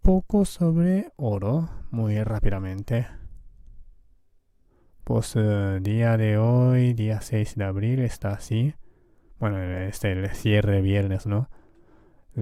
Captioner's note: Spanish